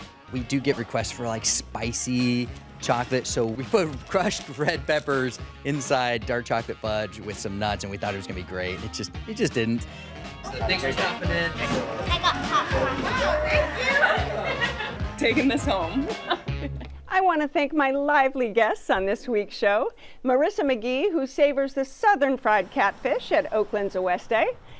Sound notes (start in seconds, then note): 12.0 laughs